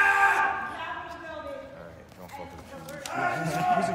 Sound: crowd muttering

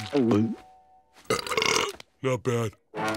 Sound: belching

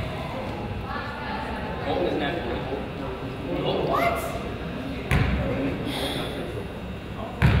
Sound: crowd chatters

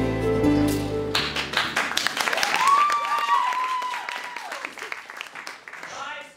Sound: audience cheering

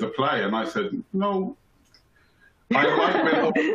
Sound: chuckles

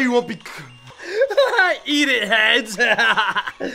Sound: laughs

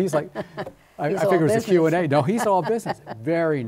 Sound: laughter

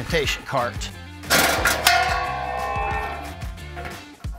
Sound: guard clanks

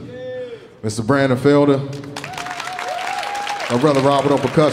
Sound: audience cheering

